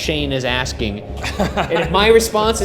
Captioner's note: laughing